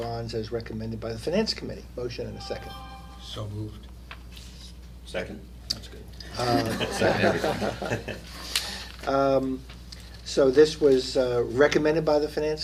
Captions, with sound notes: AS RECOMMENDED BY THE FINANCE COMMITTEE. MOTION AND A SECOND. SO MOVED. SECOND. [CELL PHONE ALERT TONE] THAT'S GOOD. [LAUGHTER] SO THIS WAS RECOMMENDED BY THE FINANCE COMMITTEE.